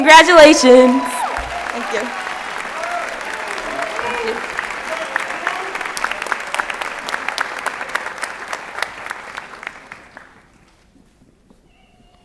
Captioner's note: applause and Cheering